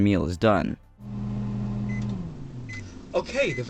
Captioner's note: microwave hums, then beeps